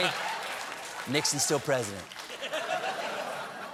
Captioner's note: laughter